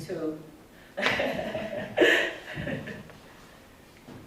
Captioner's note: laughter